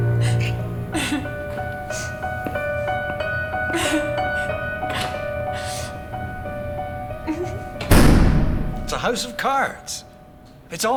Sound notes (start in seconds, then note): 0.8 Katie crying; 7.7 door thudding